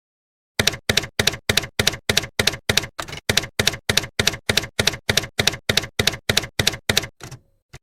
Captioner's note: typewriter keys clacking